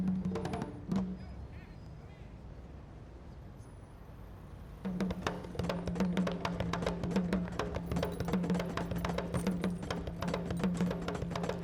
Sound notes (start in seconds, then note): none